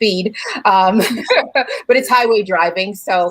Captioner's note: both laugh